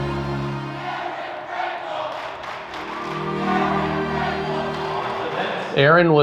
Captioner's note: cheering